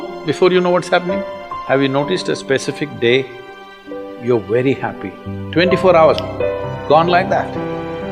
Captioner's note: snaps fingers